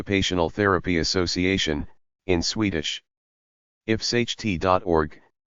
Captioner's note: in Swedish